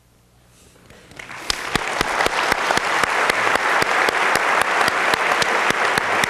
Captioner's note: applause